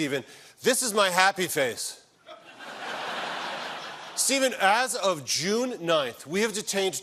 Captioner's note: laughter